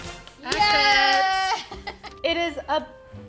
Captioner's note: celebrating